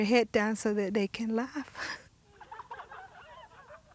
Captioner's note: woman laughing